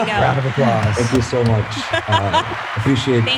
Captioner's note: chcukles